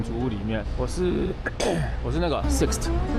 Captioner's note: cough